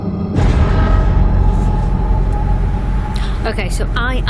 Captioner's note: lightning strike